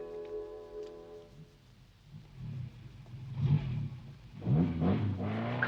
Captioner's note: car engine roaring